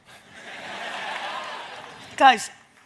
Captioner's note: audience laughs